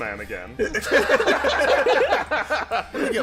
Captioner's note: laughter